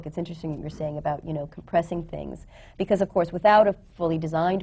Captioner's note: none